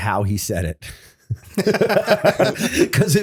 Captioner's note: laughter